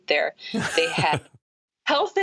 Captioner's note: laughter